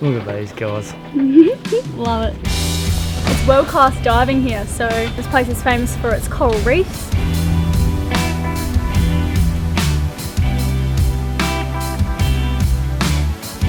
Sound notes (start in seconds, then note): 1.1 giggles; 7.2 mid-tempo guitar music